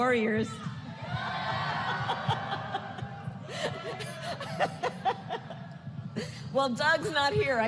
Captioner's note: laughs